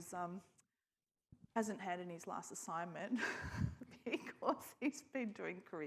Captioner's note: chuckles